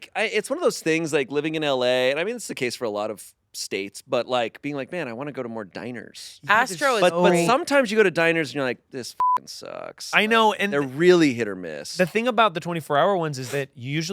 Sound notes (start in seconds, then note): 9.2 beep